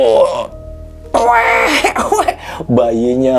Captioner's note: imitates the sound of a baby crying